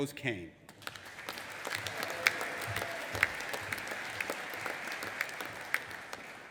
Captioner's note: audience applauding and cheering